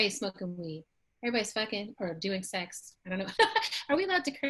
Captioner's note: laughs